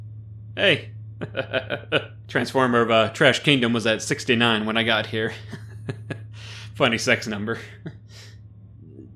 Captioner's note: chuckle; giggle